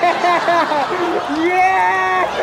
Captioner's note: laughing